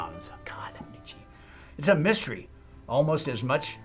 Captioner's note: whispers